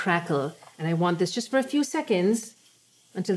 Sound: pan sizzling softly

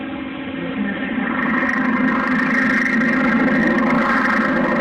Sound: biplane propeller noises

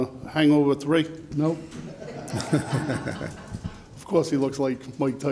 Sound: all laughs

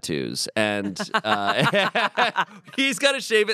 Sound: everyone laughs

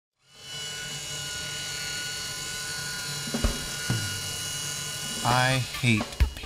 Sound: shredding

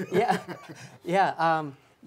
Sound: all chuckling

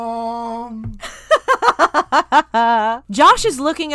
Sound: cackling

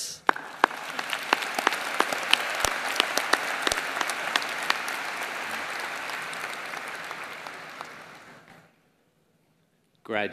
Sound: applause

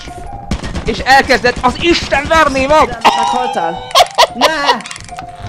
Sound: laughs

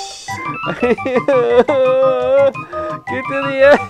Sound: sobbing

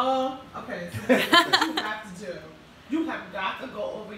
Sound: laughing

